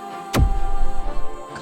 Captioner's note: zap